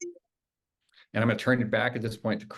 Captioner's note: device beeping